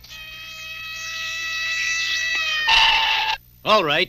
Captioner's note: sirens Wail